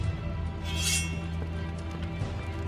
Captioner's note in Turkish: Kılıç sesi